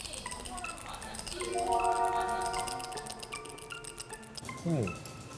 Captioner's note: A sound effect for a strange sense of deja vu